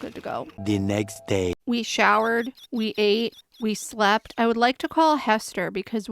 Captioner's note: french accented male narrator voice